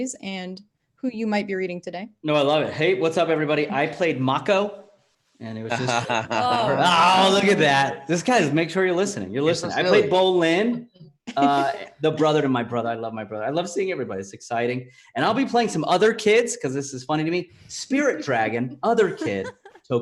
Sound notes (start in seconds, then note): 5.6 laughs